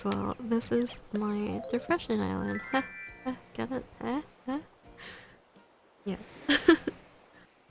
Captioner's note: awkward laughter